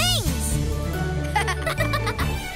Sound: laughing

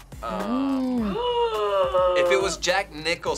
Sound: gasps

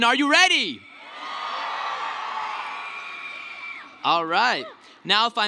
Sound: cheering

